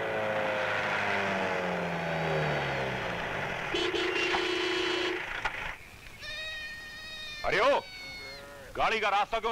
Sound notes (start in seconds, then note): 3.6 Horn blares